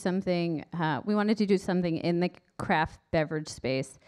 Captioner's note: none